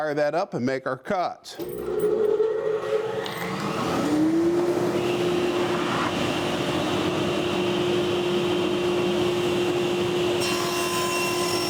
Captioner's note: saw whirs and cuts